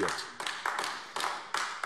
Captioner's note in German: Beifall AfD